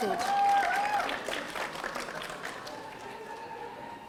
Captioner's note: audience applauding